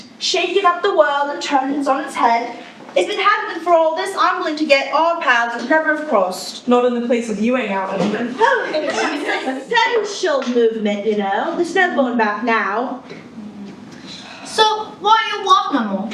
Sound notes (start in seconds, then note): 8.4 chortles